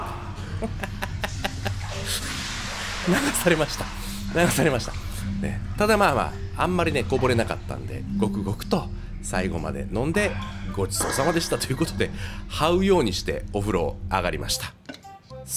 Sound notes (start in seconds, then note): 6.0 laughs